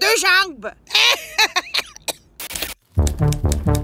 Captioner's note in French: Rires